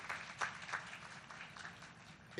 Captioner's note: applause